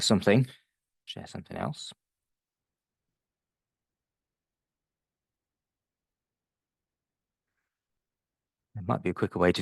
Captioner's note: long pause